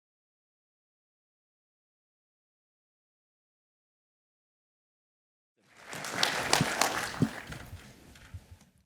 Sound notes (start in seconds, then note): 5.6 applause